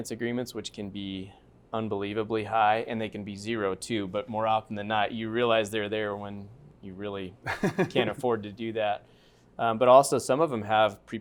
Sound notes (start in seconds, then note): 7.4 laughter